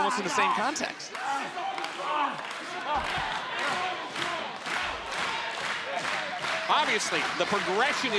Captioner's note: crowd clapping